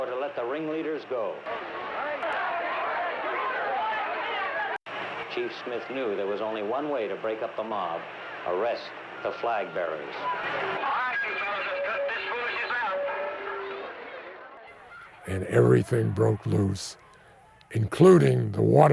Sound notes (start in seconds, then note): 1.6 crowd shouting